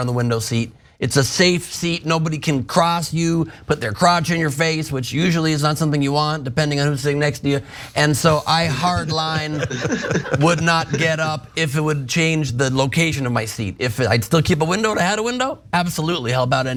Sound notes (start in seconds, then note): 8.7 laugh